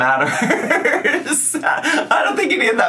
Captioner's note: laughs